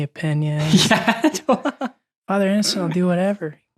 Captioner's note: laughing